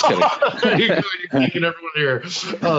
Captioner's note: laughing